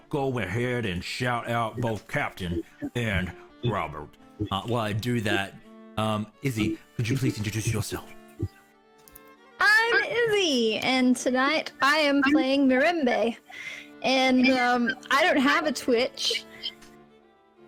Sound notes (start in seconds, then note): 4.4 normal accent